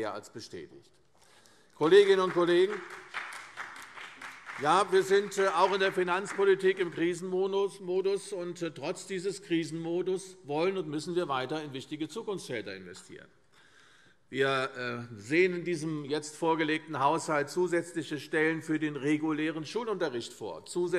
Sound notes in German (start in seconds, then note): 1.7 Beifall CDU